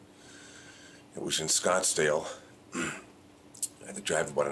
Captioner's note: clears throat